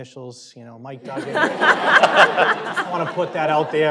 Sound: laughter

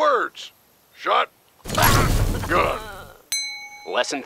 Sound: Grif moans in pain

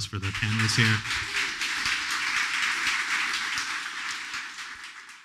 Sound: applause

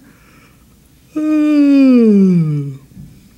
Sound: yawning

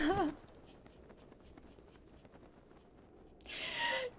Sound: sniffling

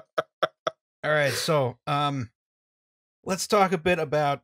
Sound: laughter

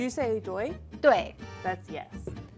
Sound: speaking in mandarin

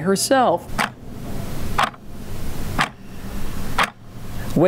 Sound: clock ticking

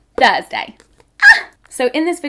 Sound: shrieking

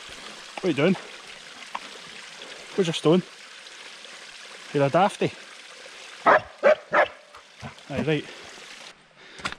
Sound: barks

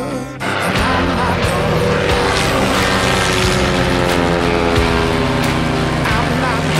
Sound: plane engine noise

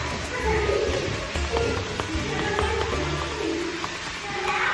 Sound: keyboard tapping

